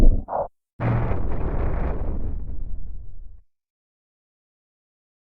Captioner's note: Supernatural 3D Giga Shadow Windows XP Shutdown Sound